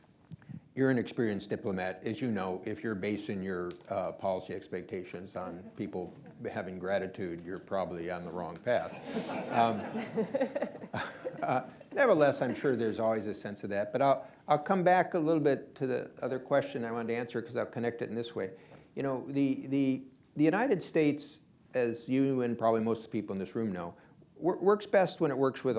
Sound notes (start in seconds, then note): 8.8 laughter